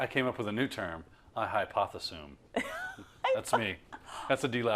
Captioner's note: laugh